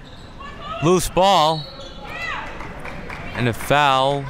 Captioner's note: whistle blows